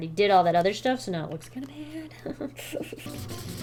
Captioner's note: nervous giggle